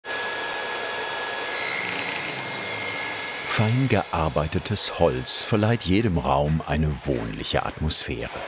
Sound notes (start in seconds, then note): 2.1 crunching